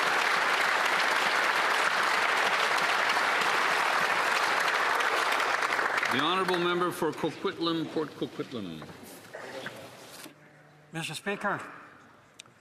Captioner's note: applause